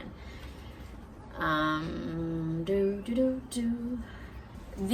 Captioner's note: hums a little thinking tune